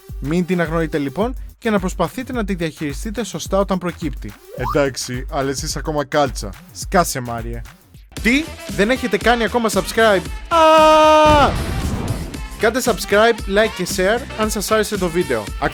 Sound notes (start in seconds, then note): 11.1 explosion